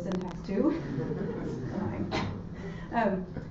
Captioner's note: audience laughter